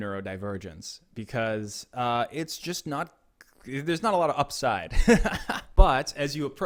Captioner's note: laughs